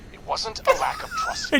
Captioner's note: laughs